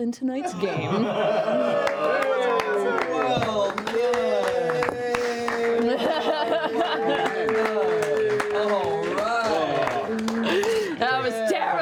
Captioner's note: cheering